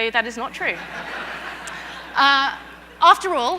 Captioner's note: audience laughter